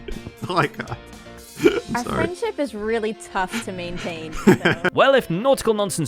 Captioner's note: laughs